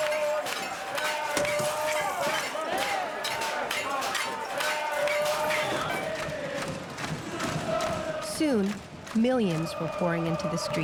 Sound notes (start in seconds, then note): 5.9 chanting